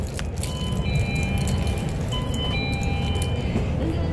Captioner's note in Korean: 하차벨 소리